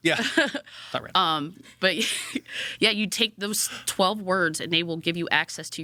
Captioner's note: laughs